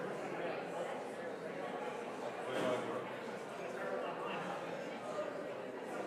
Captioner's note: congregation continues chattering